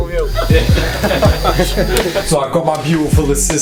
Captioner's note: laughing